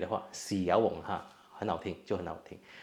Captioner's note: Cantonese